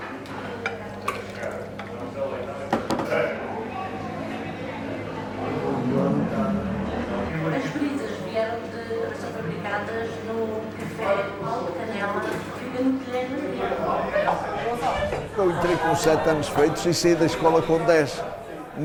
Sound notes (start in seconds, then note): 7.6 TV background noise